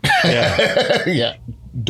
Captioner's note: laughter